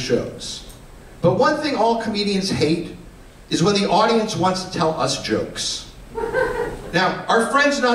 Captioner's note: laughter